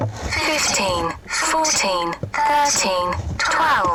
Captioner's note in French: la pompe grince; Voix robotique